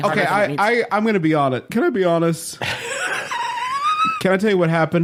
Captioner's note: laughter